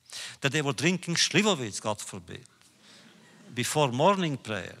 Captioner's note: laughter